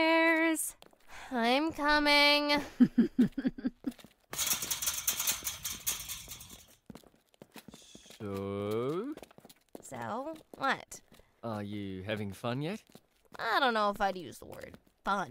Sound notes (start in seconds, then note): 2.6 giggles